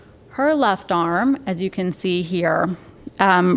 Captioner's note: none